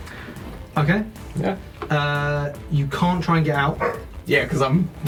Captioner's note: dog bark in background